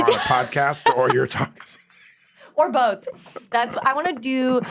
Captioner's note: laughs